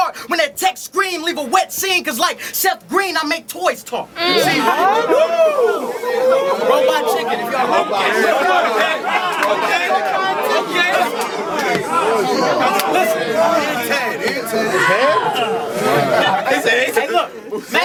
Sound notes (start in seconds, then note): 4.0 crowd Reaction